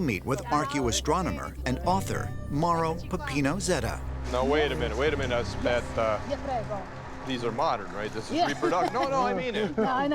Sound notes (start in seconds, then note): 8.4 laughs